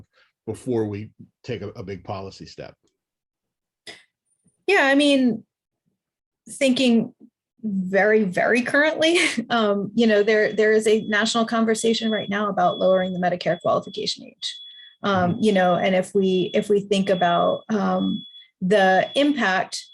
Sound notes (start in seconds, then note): 9.9 truck beeping